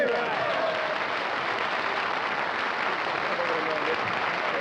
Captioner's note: applause